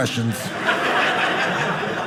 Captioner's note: audience laughing